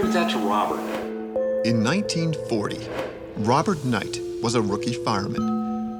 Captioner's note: voiceover